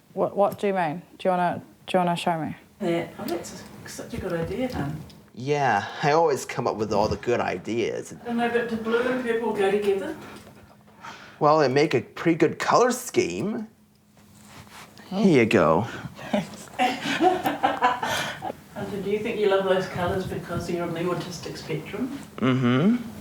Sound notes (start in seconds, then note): 17.9 laughter